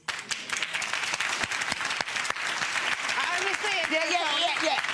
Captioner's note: audience applauding